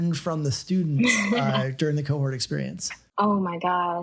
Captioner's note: laughs